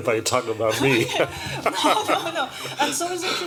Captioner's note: laughs